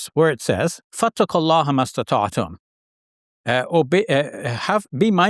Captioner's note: talks in Arabic